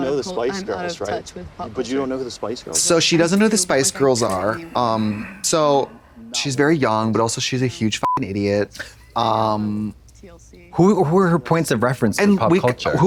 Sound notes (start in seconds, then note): 8.0 beep